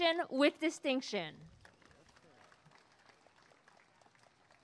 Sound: applause and cheering

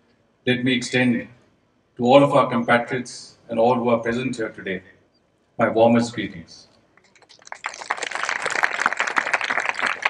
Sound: applause

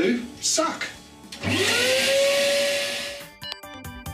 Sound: vacuum cleaner whirrs

